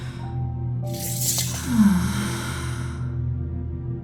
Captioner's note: Elsi sighs